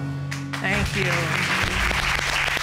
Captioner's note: applause